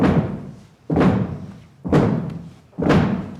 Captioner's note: crowd stomping their feet